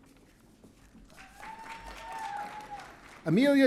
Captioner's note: audience cheering